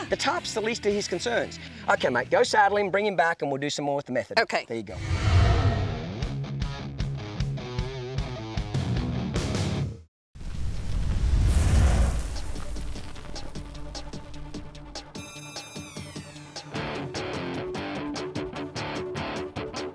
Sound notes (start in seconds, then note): 4.9 whooshing; 7.4 country rock music; 10.7 whooshing